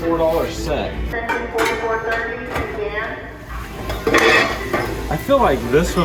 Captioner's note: intercom announcement